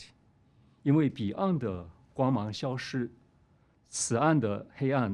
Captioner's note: speaking chinese